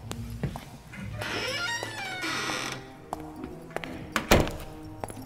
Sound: creaky door opens and closes

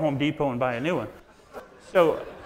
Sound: audience laughs

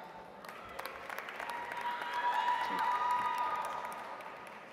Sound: audience applauds

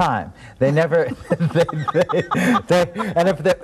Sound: laughing

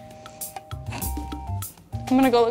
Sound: chortles

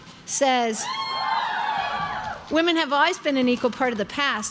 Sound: crowd cheering

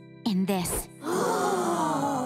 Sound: gasping

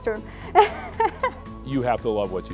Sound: laughter

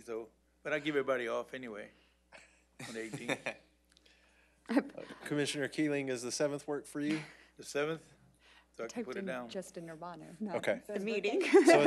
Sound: laughter

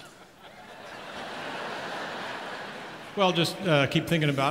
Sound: audience laughs

